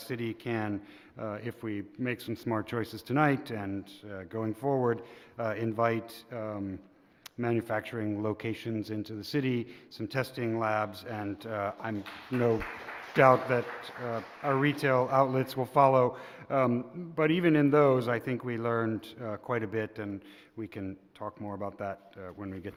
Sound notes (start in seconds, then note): 16.4 applause